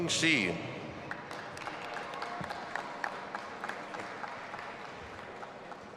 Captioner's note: audience applauding and cheering